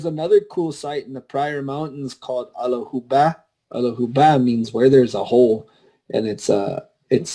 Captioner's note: apsaalooke language spoken